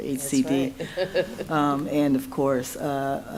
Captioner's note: laughs